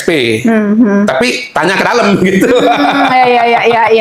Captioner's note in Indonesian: tertawa